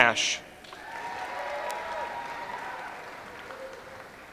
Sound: audience applauds

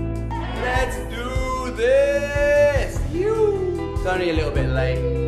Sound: whoop

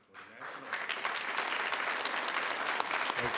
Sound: applause

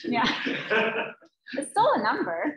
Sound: laughs

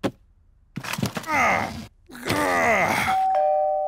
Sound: groans; doorbell rings

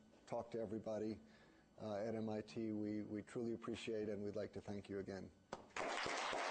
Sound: applause

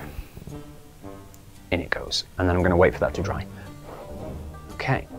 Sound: blows gently

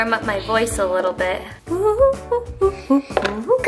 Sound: humming

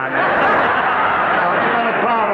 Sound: audience laughing

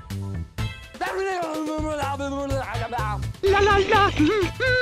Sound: Retarded Mario Noises

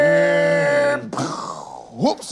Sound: pew

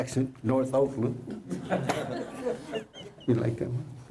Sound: laughter

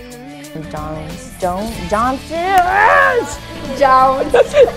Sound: laughing

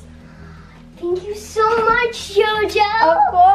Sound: gasps

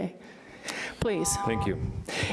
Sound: beep

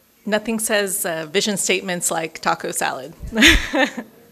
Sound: laughs

